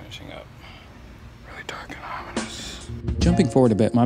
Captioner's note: whispers